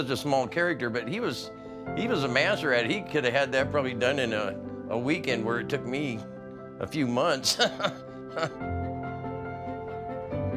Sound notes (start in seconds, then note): 7.4 chuckles